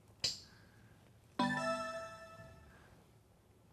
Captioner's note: electronic sound of selecting a letter; electronic startup sound